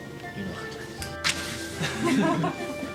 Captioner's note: all chuckle